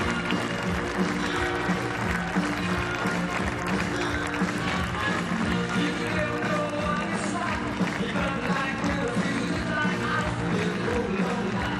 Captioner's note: cheers and applause